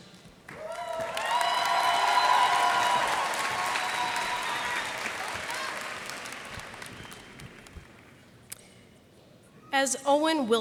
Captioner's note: cheers and applause